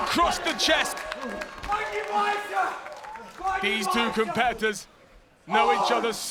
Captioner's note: applause